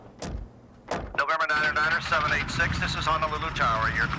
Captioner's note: man On Radio